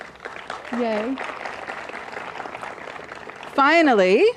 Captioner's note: applause